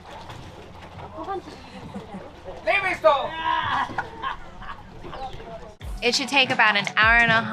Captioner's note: shouting